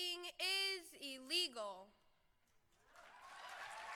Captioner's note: cheering